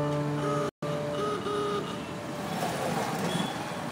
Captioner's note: car horn honks